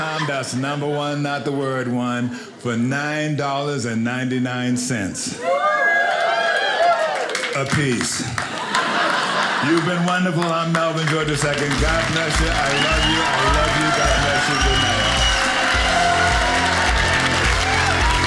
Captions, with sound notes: That's number 1 not the word one, for $9.99 (audience cheering) a piece. (audience laughing) You've been wonderful, I'm Melvin George II. God bless you, I love you, I love you, God bless you, goodnight. (audience applauding)